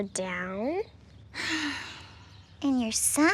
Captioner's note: sighs